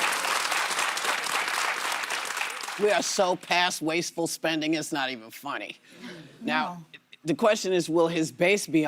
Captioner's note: applause